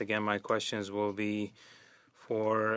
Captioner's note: speaking French